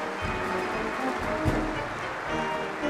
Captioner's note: applause